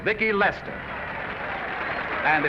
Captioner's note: applause